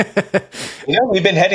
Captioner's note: laughing